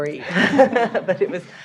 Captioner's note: laughter